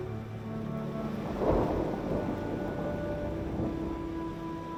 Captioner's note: thunder crashing